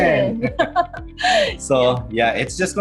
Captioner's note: both laughing